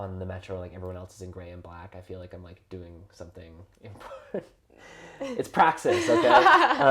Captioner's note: laughs